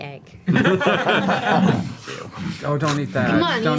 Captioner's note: all laugh